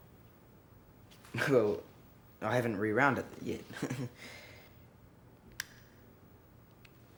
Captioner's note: chuckles